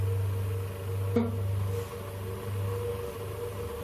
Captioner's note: tapping